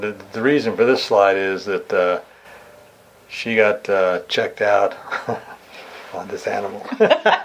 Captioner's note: laughs; laughing